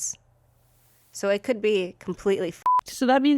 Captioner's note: beep